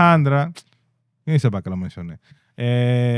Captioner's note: speaking In Foreign Language